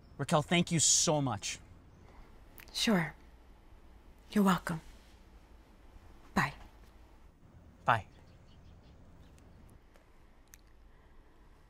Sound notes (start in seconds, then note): none